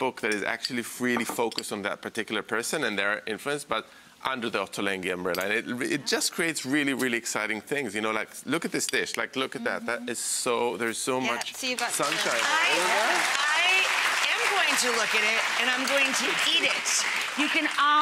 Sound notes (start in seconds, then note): 11.6 audience clapping